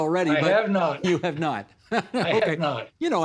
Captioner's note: laughing